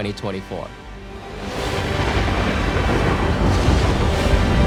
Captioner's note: thunder crashing